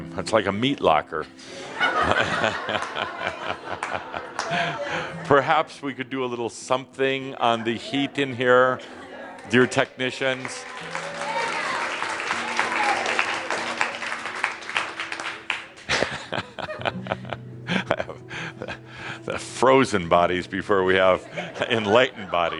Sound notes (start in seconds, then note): 1.5 laughter; 12.5 audience enthusiastically agrees